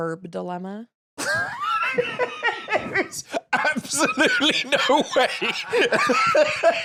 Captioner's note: laughing